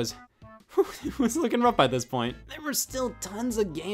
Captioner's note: laughs